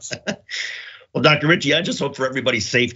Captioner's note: laugh